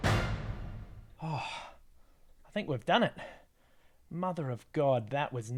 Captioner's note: sigh